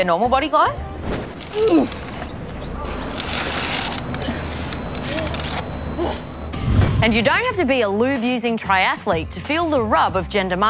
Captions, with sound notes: (Straining) (Puffing and panting) And you don't have to be a lube-using triathlete to feel the rub of gender marketing.